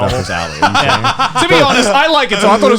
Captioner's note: laughs